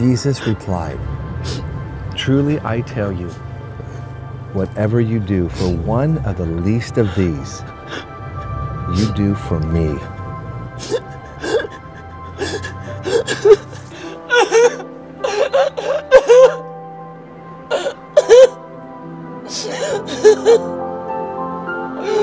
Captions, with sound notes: Jesus replied, "Truly, I tell you, "whatever you do for one of the least of these "you do for me." (sobbing) (gentle music)